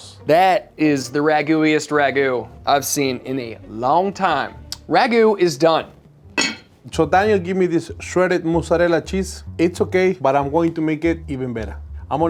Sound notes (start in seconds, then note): 6.4 lid clacks